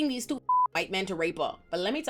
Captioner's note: beep